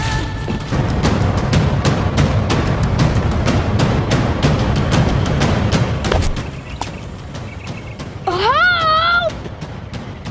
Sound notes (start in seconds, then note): 2.2 thundering music; 6.1 smacking